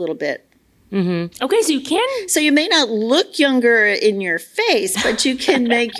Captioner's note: laughs